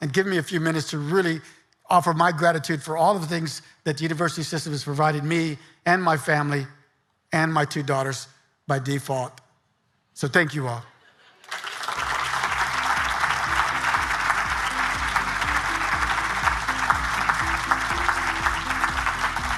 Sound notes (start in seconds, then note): 11.4 audience applauding; 16.8 upbeat music